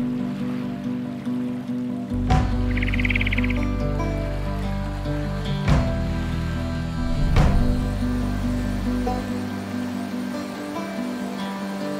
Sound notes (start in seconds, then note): 0.1 water rippling; 2.4 birds trilling